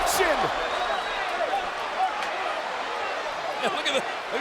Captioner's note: crowd chattering